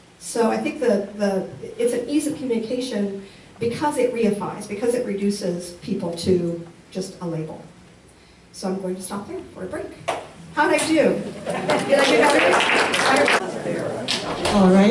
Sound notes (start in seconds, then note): 11.5 applause